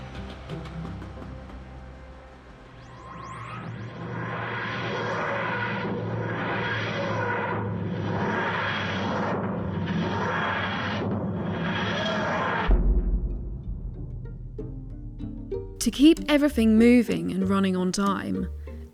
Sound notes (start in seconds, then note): 3.2 Tardis sound